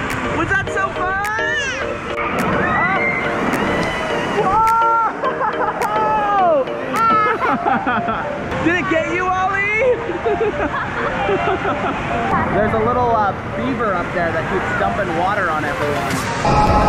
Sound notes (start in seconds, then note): 2.5 laughing; 2.5 yelling; 9.9 laughing